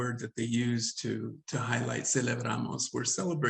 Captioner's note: speaks Spanish